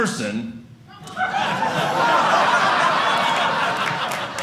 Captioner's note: audience laughing